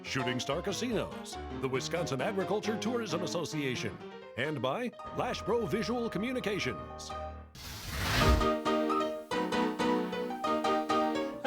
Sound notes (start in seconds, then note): 7.6 flames sizzling; 8.4 upbeat music